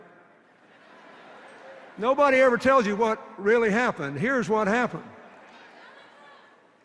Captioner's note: laughter